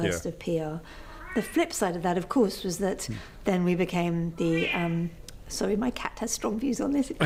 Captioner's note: cat meows